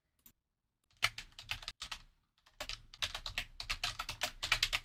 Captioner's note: keyboard clicking